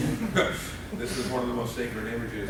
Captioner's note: laughing